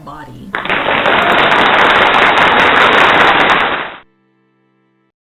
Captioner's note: loud clapping